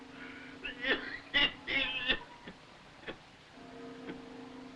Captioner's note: coughing; laughing